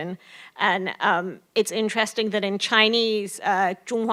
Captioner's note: foreign language